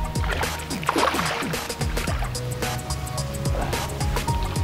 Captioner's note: water splashing